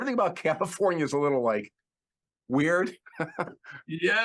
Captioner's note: laughs